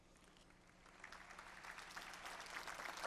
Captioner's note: applause